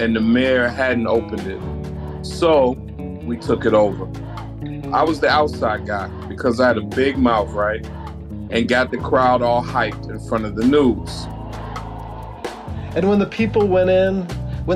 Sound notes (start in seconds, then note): 11.1 crowd chanting in unison; 11.1 crowd cheering